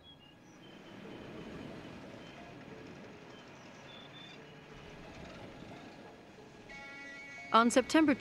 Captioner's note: birds chirping